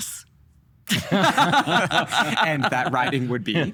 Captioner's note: laughing